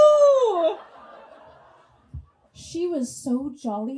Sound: audience laughs

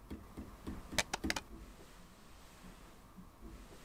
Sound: crack

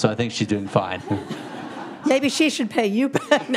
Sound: audience laughing

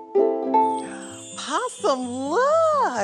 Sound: ukulele strumming; magical chime

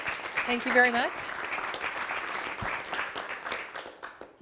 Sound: applause

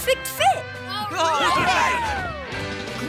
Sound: cheering

